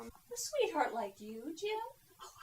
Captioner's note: giggle